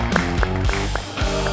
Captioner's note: applause